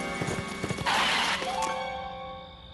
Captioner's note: screech!